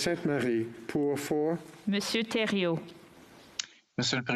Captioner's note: speaking French